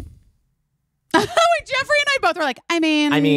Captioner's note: laughing